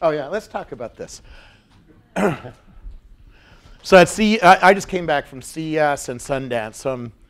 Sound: cough

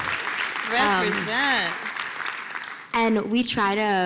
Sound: applause

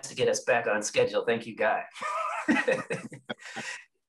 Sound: laughs

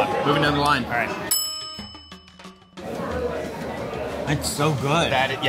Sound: bell dings

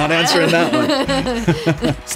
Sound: laughter

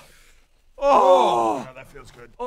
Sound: long-overdue sigh of relief

